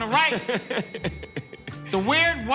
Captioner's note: laughs